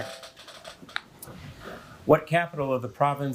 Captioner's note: bell ringing; chair creaking